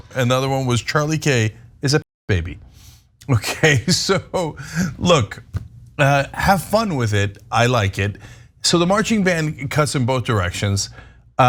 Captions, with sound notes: >> Another one was, Charlie Kirk is a baby, okay. So, [LAUGH] look, have fun with it. I like it. So the marching band cuts in both directions.